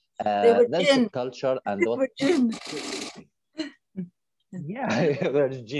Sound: laughs

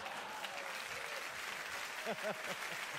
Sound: applause; chuckle

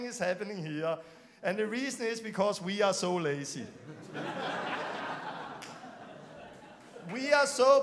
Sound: laughing

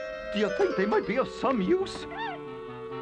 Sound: squeaks

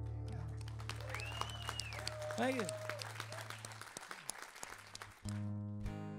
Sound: audience cheering; guitar strumming

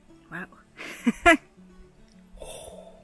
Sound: laughs

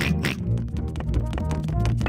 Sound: george oinks; snorts

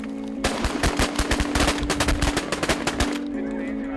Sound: gun Shots

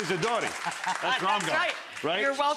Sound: audience applauding

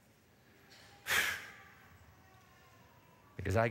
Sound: exhales sharply

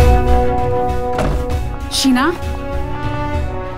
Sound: door closes

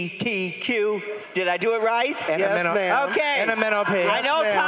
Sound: crowd cheering

